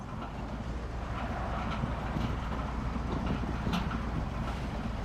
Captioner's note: metal rattling